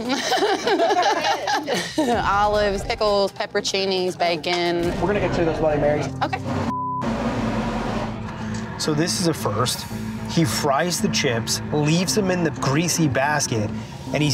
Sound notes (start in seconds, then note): 0.0 laughing; 6.6 beeping; 8.7 tense music